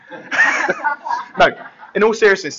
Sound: laughter

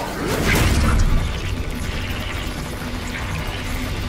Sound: vibrating

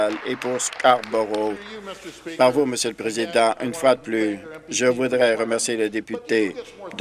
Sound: applause

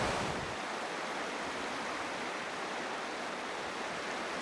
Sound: water gurgling

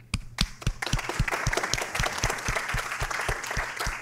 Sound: applause

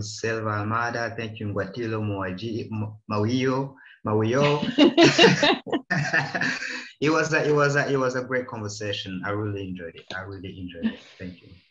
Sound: laughs

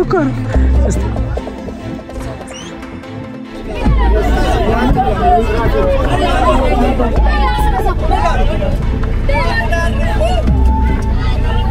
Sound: crowd noise

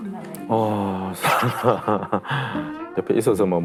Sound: hahahahahahahahahaha

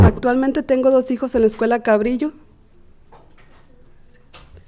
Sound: speaking Spanish

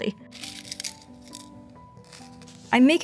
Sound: pins rattling

